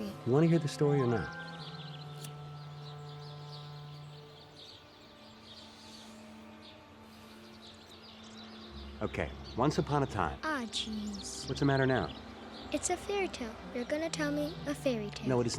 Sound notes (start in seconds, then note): 1.7 birds chirping